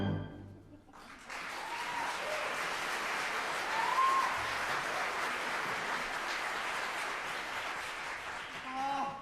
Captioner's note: applause